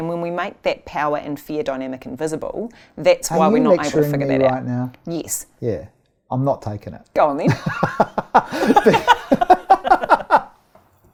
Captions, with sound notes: When we make that power and fear dynamic invisible, that's why we're not able - Are you lecturing me right now? - to figure that out. Yes. - I'm not takin' it. - Go on, then. (laughing)